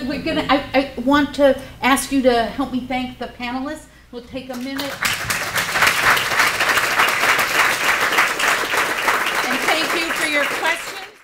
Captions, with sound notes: I want to ask you to help me thank the panelists. [APPLAUSE]